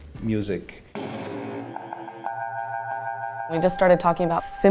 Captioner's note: electronic sounds